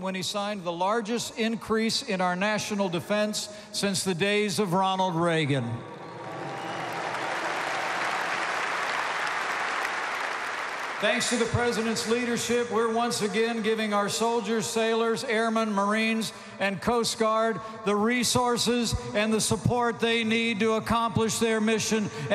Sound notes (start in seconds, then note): 6.0 applause